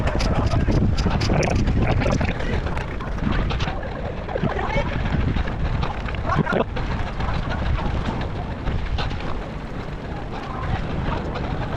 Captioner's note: wind blowing